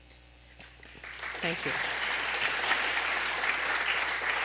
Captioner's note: applause